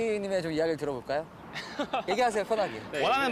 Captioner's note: chuckles